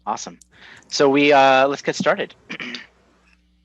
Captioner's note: clears throat